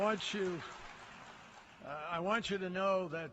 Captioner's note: applause